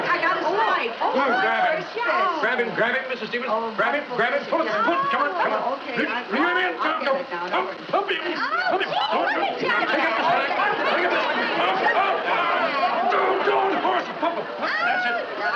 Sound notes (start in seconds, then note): 4.9 excitement, Chattering